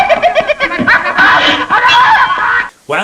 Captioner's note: yells